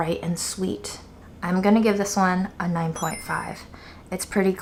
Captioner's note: chimes tinkling